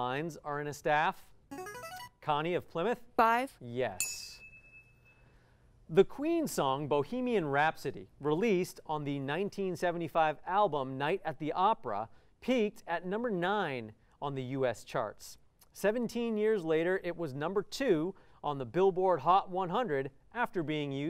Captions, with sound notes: [musical scale] Connie of Plymouth. Five. Yes. [ding] The Queen song, "Bohemian Rhapsody," released on the 1975 album, "Night at the Opera," peaked at number nine on the US charts. 17 years later, it was number two on the Billboard Hot 100 after being used in this film.